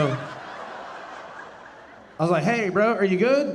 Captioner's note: audience laughing